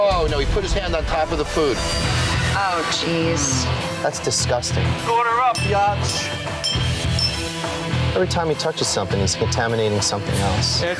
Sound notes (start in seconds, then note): 6.6 dinging